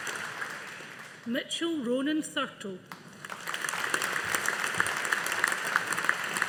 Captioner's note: audience applauding